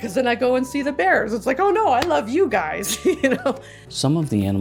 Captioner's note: laughs